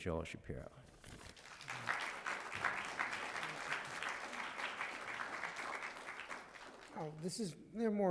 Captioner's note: applause